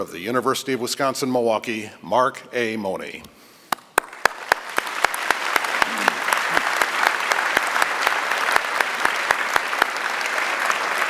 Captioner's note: applause